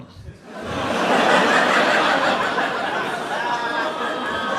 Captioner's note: audience laughing